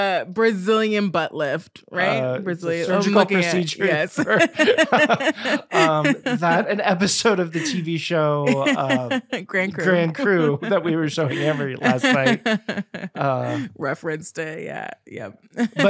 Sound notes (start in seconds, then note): 4.1 both laughing